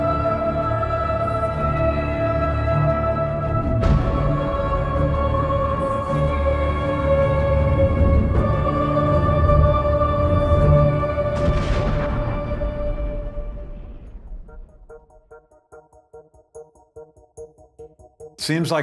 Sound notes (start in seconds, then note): 11.3 explosion; 14.5 fast electronic music